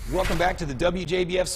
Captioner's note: logo swooshes